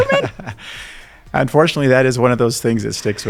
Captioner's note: laughing